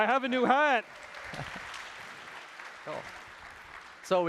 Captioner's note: applause